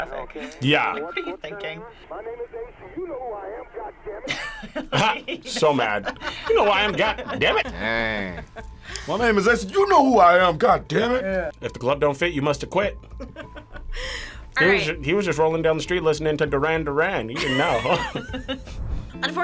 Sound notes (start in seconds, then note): 4.2 laughs; 13.1 laughs; 17.3 laugh